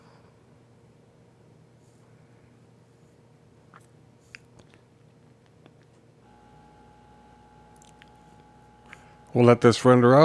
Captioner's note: silence